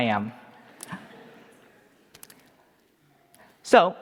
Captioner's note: audience laughing